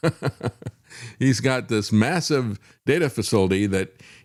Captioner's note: laughs